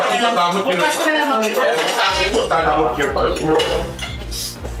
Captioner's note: overlapping chatter